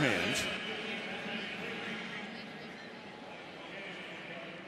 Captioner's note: pa announcement